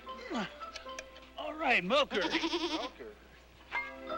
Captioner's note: goat bleating